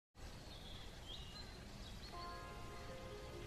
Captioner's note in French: chants d'oiseaux